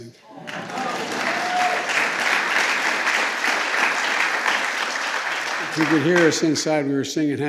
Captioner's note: applause